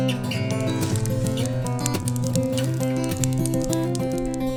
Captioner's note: fire crackles